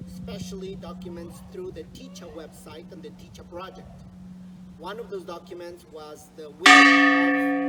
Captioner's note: church bell rings